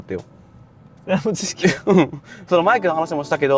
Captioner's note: laughs